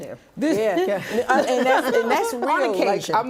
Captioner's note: laughter